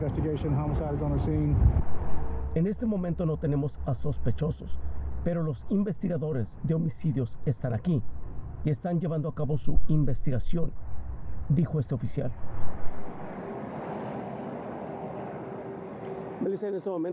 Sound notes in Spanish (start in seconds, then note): 4.3 habla en ingés